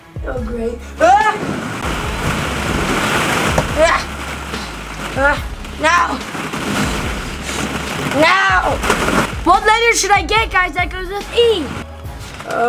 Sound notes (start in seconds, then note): 2.0 ball pit rustling